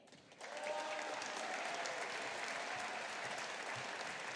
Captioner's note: audience applauding